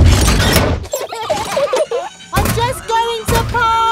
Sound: children giggling

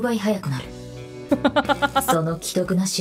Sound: chuckles

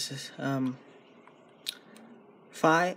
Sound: smacks lips

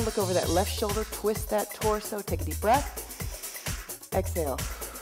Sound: breathing

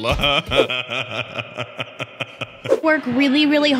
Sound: laughter

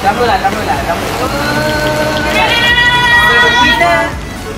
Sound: cheers and drumrolls

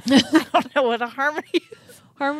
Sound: chuckling

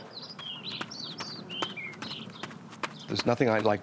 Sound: birds chirping

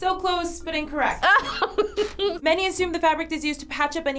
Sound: laughs

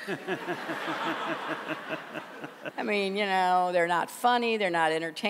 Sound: laughter

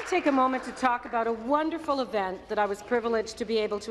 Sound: some Applause

